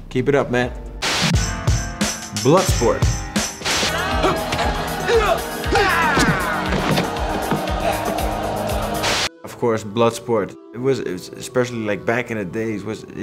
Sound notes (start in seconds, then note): 1.3 upbeat music; 3.7 upbeat music; 3.8 both exclaim; 6.8 crowd cheers